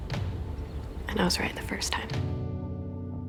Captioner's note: voiceover